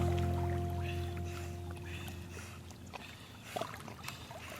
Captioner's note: water gurgling; dogs breathing